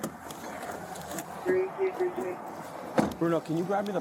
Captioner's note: radio chatter